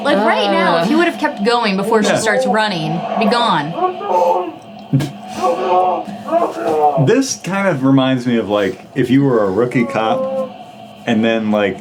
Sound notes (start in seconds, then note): 4.0 police screaming